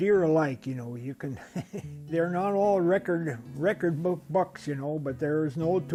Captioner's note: chuckles